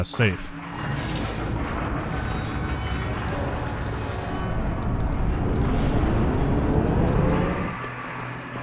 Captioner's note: sounds of rusted mechanisms coming to life